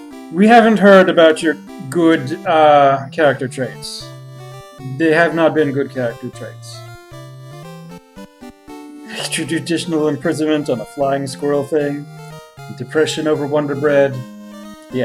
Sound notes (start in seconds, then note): 8.9 chuckling